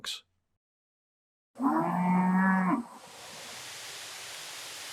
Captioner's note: cows moo